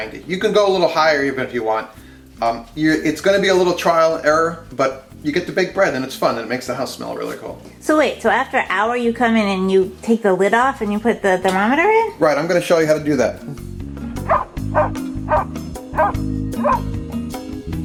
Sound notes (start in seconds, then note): 14.4 dog barking